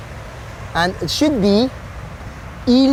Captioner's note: speaks in foreign language